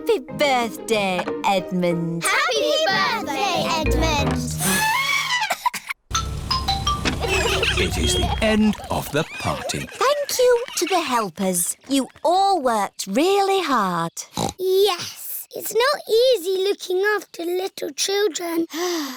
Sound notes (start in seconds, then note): 5.2 trumpets; 6.1 horns honking